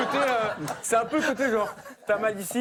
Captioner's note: audience laughter